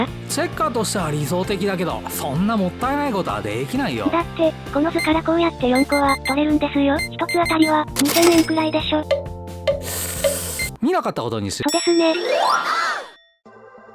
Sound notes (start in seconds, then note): 9.8 the sound of taking a deep breath